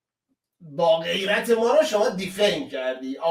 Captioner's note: reads the English letter mockingly